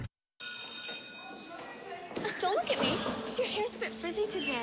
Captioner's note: bell rings